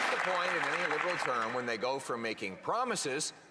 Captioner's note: some Applause